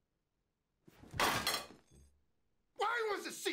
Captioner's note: loud clank